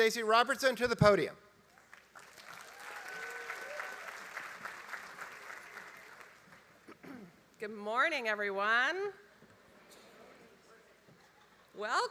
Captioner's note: applause